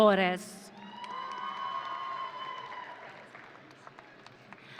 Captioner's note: audience cheering